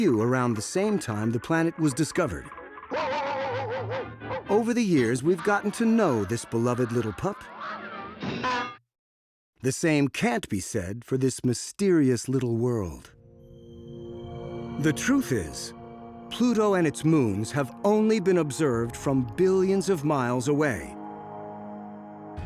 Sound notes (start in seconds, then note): 2.8 barking furiously; 8.2 horn honks, metal clanks